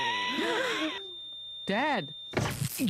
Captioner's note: wheezing; all gasp